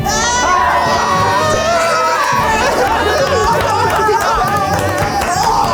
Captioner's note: contestants screaming and clapping; triumphant music